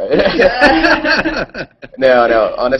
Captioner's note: laughter